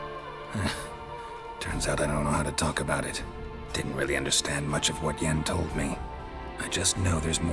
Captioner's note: wry chuckle